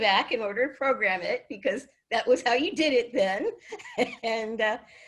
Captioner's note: laughs